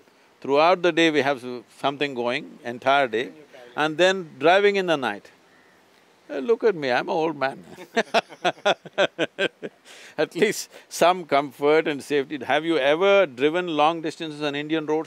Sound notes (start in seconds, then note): 7.6 both laugh